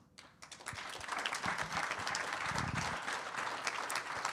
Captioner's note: attendees applauding